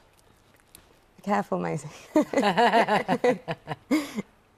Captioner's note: laughter